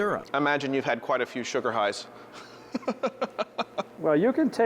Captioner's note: laughing